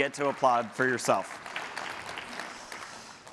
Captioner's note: applause